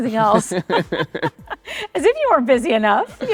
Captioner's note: both laughing